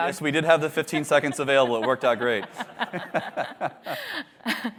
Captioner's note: laughter